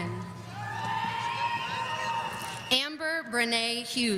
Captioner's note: audience cheering